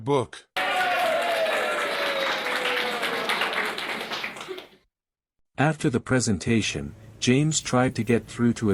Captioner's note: students cheering; students laughing